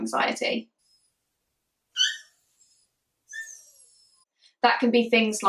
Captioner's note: whining and barking